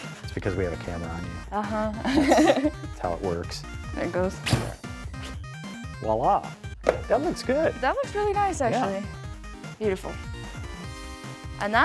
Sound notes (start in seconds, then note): 1.8 laughs; 4.4 hotel thumps